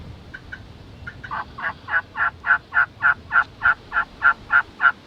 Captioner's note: turkey calling